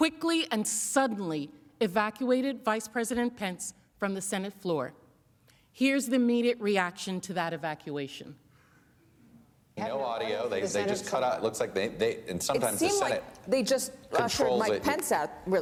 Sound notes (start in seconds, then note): none